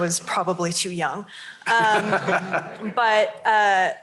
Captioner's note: laughter